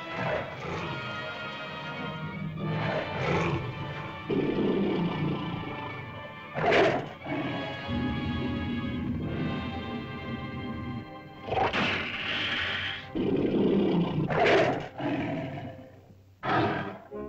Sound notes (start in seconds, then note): 0.1 dramatic music; 2.5 lizard growls; 11.1 lizard growls & snarls